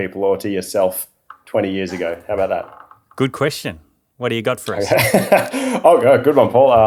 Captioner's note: laughing